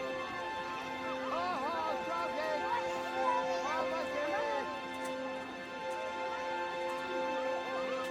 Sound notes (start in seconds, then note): 2.2 speaks foreign language